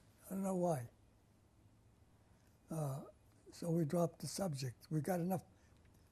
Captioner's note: pauses for 3 seconds